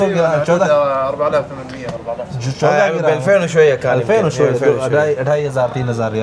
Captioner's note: Arabic